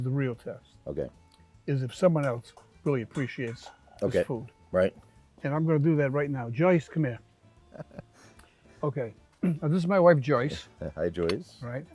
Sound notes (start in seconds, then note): 7.6 Todd chuckles; 9.4 clears throat